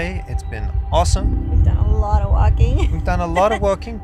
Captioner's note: laughs